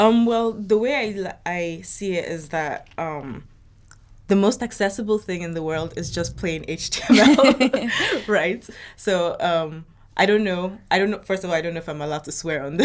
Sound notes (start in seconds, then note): 7.3 laughing